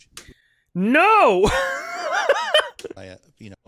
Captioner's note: laughs